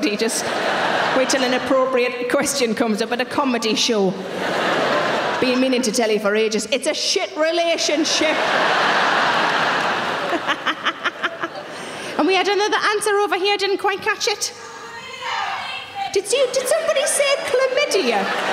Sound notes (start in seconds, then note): 7.9 audience laughing; 10.2 Sarah laughs; 15.0 audience members shouting